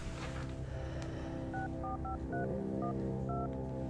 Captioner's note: dialing